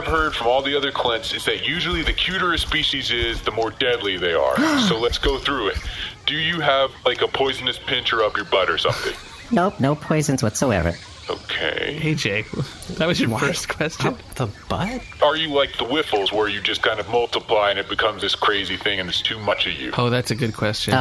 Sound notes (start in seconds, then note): 4.5 gasps; 11.2 laughing